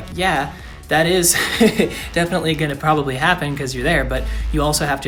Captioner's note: laughs